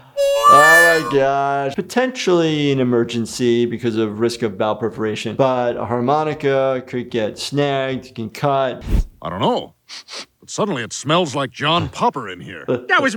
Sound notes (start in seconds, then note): 0.0 harmonica plays; 10.0 sniffs